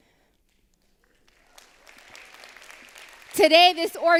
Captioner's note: applause